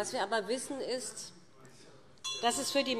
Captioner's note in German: Weitere Zurufe SPD - Glockenzeichen